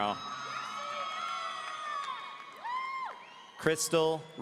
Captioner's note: audience cheering